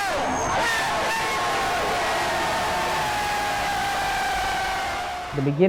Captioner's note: crowd cheering